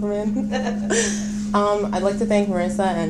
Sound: laughing

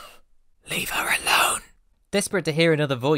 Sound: hoarse whipser

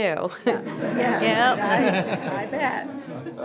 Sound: group laughs

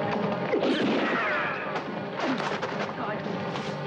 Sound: gun blasts

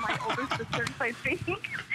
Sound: laughter

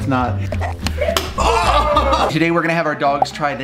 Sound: laughs; group groans; egg splats

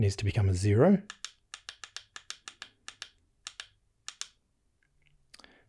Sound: clicking

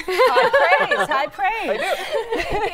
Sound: laughs

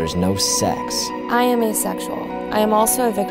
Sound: voiceover

